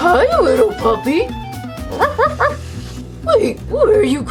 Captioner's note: puppy barks